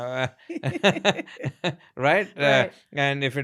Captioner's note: both laughing